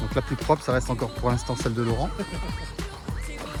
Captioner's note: laughs